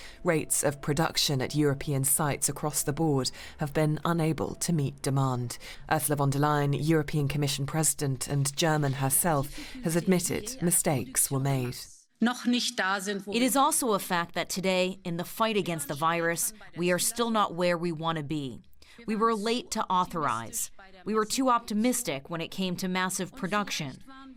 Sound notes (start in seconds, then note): 13.0 through translator